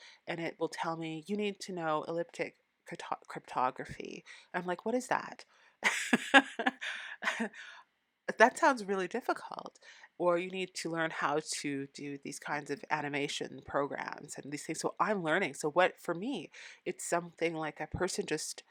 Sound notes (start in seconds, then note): 5.8 laughing